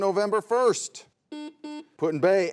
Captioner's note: buzzer sounds